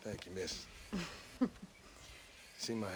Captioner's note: laugh